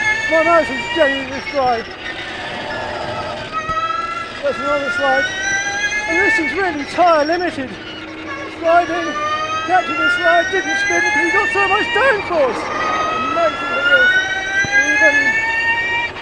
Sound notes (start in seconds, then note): 2.6 tires screeching; 3.7 engine revving; 16.0 engine revving